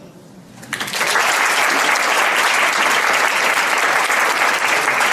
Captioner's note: audience applauds